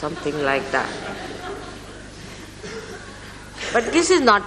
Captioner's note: laughter